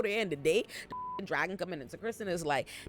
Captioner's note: beep